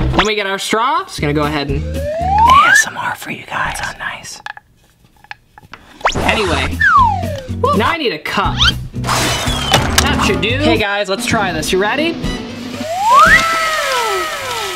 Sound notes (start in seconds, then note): 4.6 straw crinkling; 13.0 upbeat music